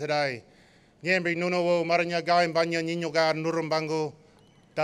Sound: non-english speech

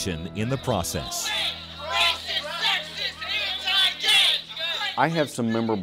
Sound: crowd chanting

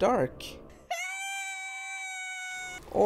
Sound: screams

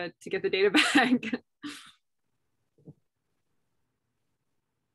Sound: laughter

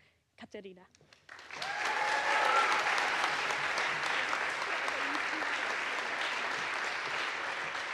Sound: audience applauds; audience cheers

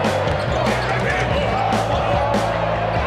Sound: laughs

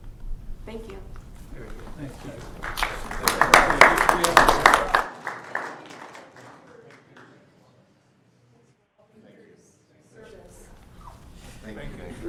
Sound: applause

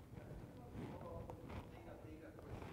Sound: off microphone

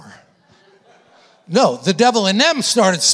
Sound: congregation laughing

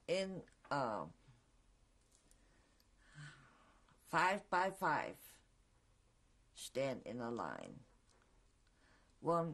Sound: pauses for 3 seconds

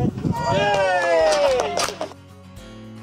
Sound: group cheer and clap; gentle music

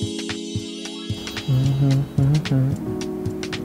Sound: humming

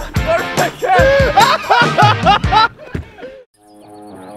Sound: laughter

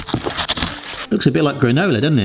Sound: stirring sounds

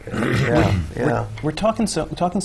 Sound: clears throat

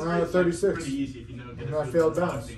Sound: murmuring

